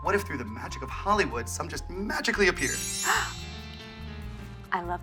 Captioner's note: Kristen gasping